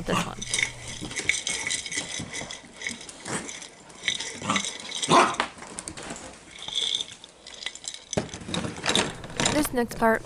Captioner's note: Jar Jingling, Holly Barking, and Steps